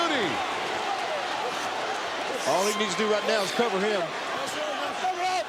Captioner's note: applause